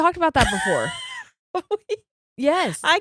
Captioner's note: giggles